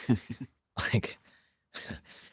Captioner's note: laughs